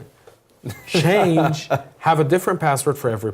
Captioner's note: laugh